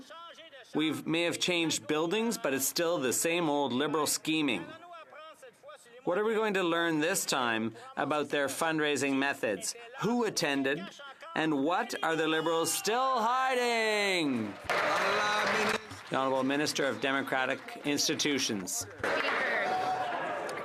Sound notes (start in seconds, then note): 17.6 some Applause